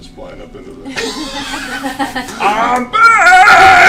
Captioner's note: laughter